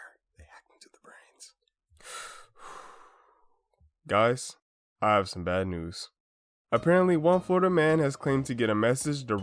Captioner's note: nervously sighs